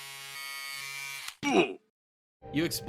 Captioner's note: buzzing; pained Grunt